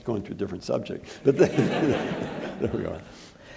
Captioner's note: all laughing